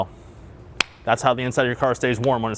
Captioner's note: fist slapping